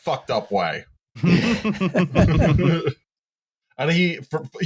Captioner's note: laughter